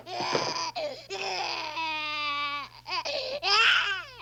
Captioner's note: cries